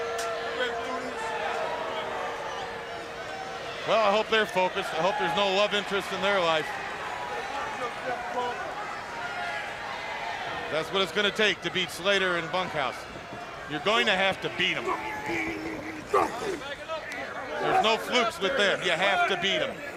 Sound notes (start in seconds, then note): 8.0 crowd chatter